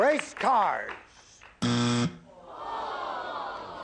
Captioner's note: buzz